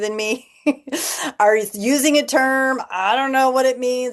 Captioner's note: laughter